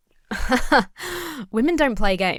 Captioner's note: laughs haughtily